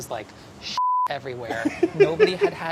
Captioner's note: laughing